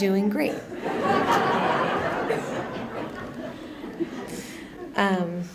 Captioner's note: laughter continues